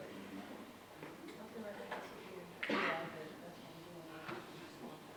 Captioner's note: audience chatting quietly